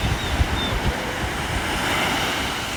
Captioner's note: more ocean waves